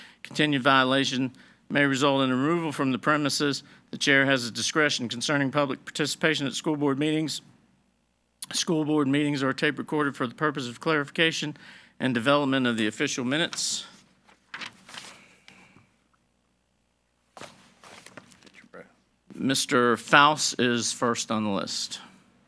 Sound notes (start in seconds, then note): 14.5 paper rustling